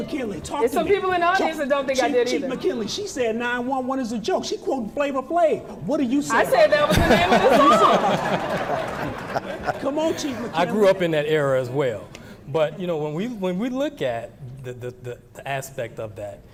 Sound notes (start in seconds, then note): 6.4 laughing